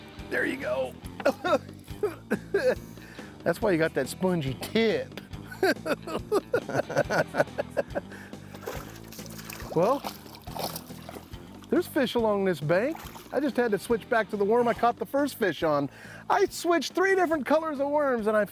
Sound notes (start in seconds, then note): 5.4 both chuckling